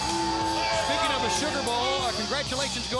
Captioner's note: crowd cheering